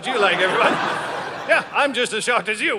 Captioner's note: audience laughing